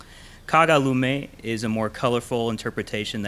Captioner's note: in foreign language